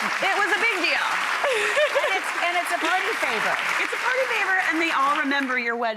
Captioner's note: clapping